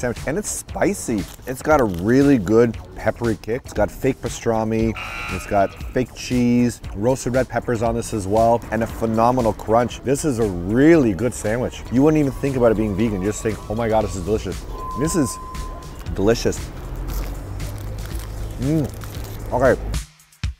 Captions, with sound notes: and it's spicy! It's got a really good peppery kick. It's got fake pastrami, *buzzer* it's got fake cheese, roasted red peppers on this as well and a phenomenal crunch. This is a really good sandwich. You wouldn't even think about it being vegan. You'd just think 'oh my god, this is delicious'. This is ... delicious! *sandwich crunch* Mmm! Okay.